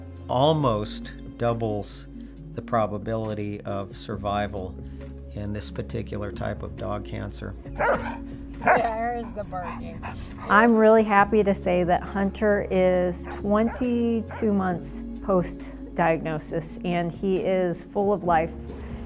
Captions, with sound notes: almost doubles the probability of survival in this particular type of dog cancer. [Hunter barking] There’s the barking. I'm really happy to say that Hunter is 22 months post-diagnosis, and he is full of life